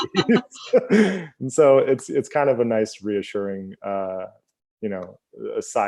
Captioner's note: both laugh